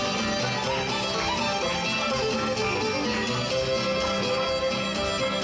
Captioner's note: audience clapping